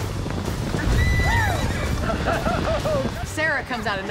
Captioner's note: horse neighs